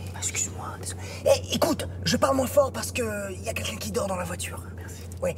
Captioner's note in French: chuchotements